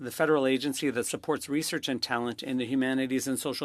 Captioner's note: speaking French